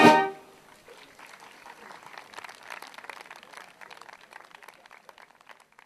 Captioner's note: applause